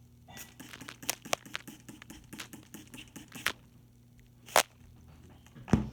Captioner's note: spray bottle sounds